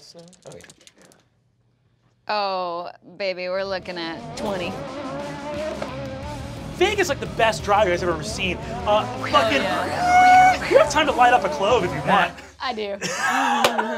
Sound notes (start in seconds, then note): 4.1 revving; 9.2 screeching; 13.0 laughing